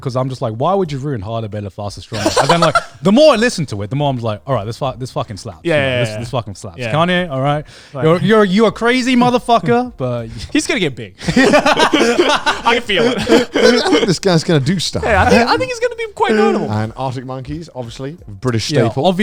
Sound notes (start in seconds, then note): 11.2 both laughing; 13.8 laughing